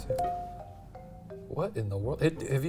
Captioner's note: soft mischievous music; computer dings